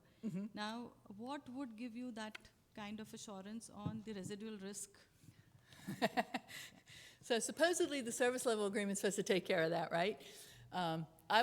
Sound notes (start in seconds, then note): 5.6 chuckles